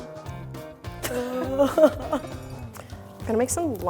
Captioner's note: lively music; mummy sounds